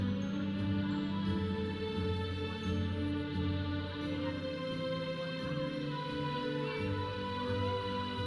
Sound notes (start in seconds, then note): 2.1 audience chattering; 2.1 processional music